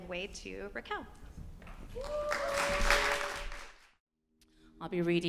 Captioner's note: applause